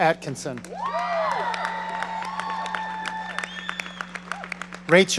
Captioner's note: audience cheering